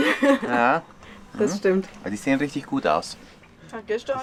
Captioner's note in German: lacht